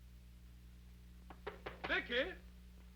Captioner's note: knuckles rapping